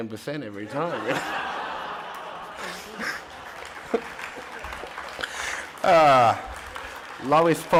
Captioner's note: audience laughter and applause